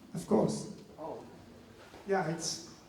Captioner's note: voiceover